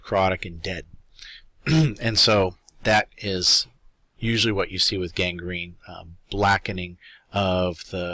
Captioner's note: cough